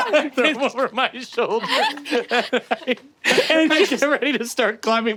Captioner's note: laughing